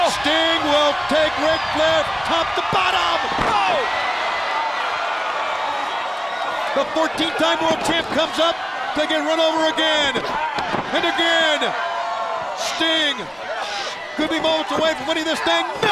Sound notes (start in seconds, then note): 3.4 Ric thudding on ring; 4.7 crowd cheering